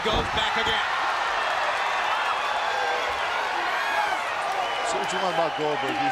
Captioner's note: crowd cheering